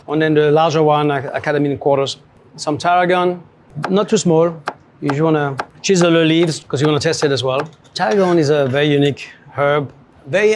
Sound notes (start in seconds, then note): none